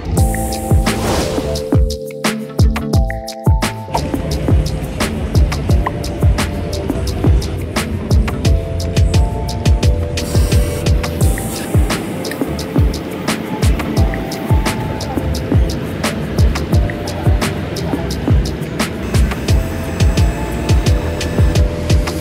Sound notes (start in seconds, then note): 0.1 transition whooshing; 0.3 upbeat music; 4.0 transition whooshing; 10.0 machine buzzing; 19.0 machine buzzing